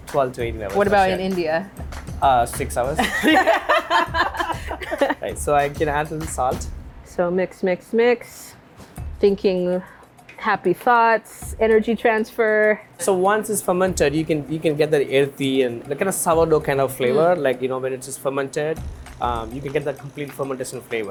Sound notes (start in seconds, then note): 2.9 both laugh